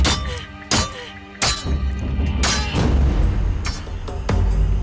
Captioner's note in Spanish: Golpes